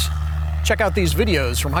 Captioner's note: airplane engine roaring